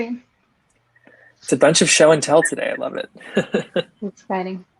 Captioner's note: chuckles